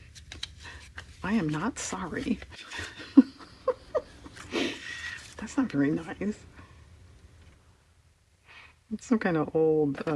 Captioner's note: laughs